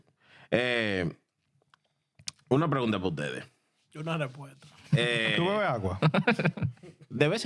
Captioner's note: laughing; speaking In Foreign Language